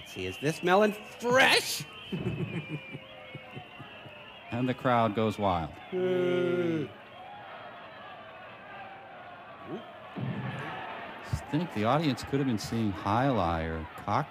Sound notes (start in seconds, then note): 8.3 crowd clamoring